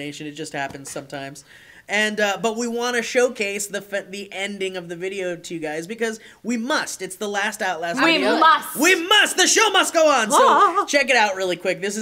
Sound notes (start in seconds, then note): 9.0 dramatically